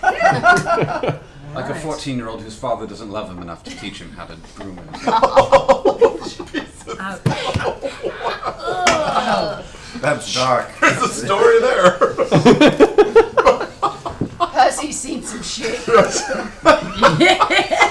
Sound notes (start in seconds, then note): 6.2 laughs